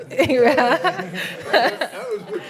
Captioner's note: panelists laughing